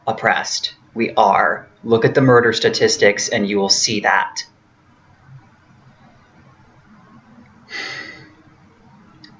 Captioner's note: sighs regretfully